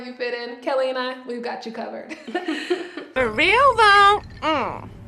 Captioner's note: both laughing